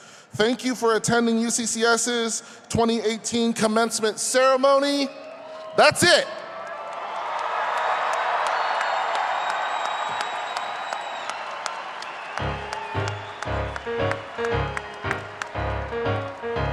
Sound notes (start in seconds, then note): 8.9 audience applauding and cheering; 13.4 lively ragtime piano music